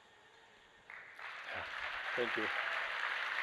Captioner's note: applause